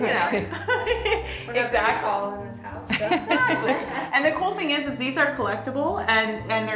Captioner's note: laughter